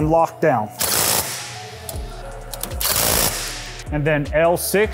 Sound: torque wrench buzzing

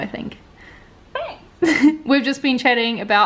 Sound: laughs

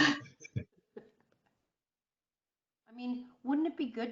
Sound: chuckling

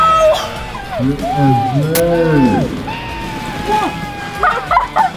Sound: dad screaming

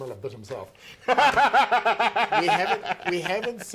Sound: laughing

